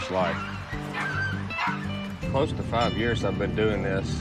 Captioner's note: none